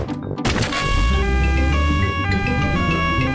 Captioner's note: siren wailing